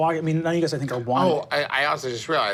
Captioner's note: none